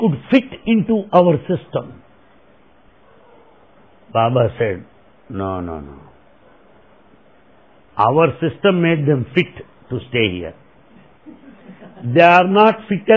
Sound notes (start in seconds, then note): 11.2 laughter